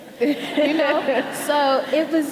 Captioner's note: audience laughing